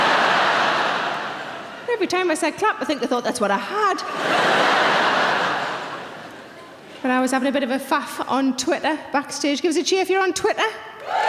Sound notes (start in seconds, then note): 4.0 audience laughing; 11.0 audience cheering